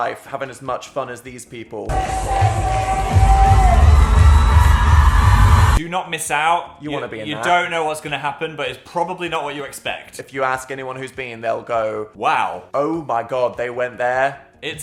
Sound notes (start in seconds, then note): 3.8 crowd cheering